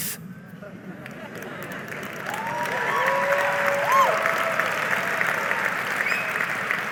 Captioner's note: audience cheering and applauding